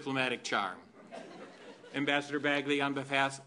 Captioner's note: laughter